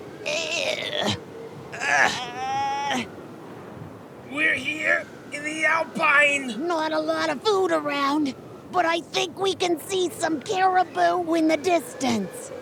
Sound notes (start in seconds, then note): 2.9 wind whistles